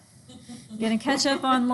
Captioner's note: students laugh